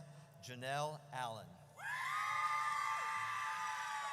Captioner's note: audience cheers